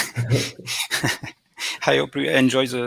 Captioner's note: laughs